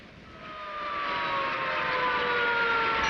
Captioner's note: sirens wailing